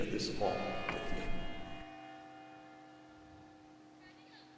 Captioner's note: church bell rings